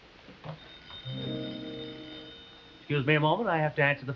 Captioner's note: phone ringing